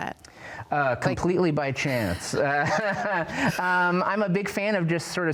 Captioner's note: laughs